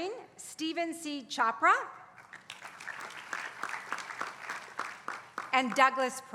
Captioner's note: applause